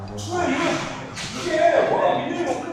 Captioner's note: voicing frustration